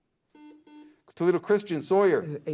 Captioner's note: beep